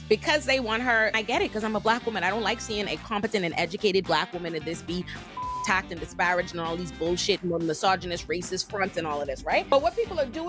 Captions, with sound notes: - Because they want her, I get it, because I'm a black woman. I don't like seeing a competent and educated black woman in this be (beep) attacked and disparaged and all these bullshit, more misogynist, racist fronts in all of this, right? But what people are doing